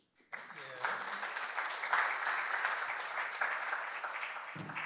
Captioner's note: applause